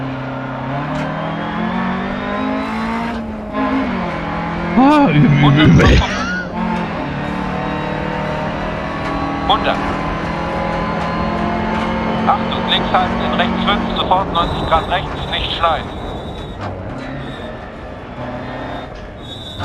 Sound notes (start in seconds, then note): 4.8 laughs; 7.0 engine noise and instructions from the co-pilot